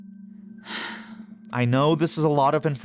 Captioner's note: sighs